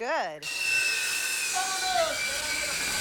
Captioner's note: saw buzzing